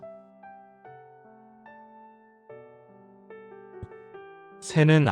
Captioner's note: silence